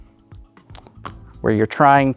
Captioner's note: tokens clatter